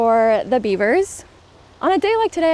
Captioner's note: water trickles